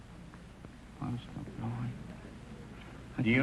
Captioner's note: whispering